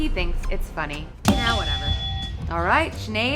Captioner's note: buzzer rings